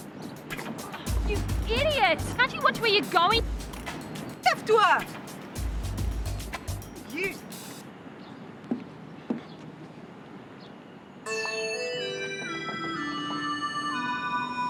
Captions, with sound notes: - You idiot! Can't you watch where you're going? (speaking in foreign language) - You. (melancholy music)